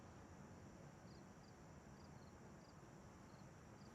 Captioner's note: crickets chirping